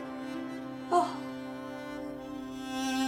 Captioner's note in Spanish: Jane jadea